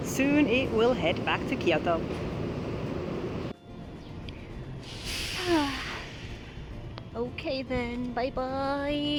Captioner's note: sigh